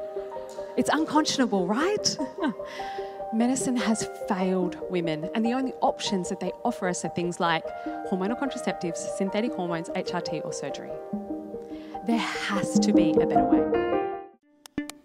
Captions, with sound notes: It's unconscionable, right? (chuckles) Medicine has failed women, and the only options that they offer us are things like hormonal contraceptives, synthetic hormones, HRT, or surgery. There has to be a better way.